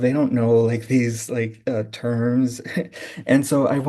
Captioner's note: laughing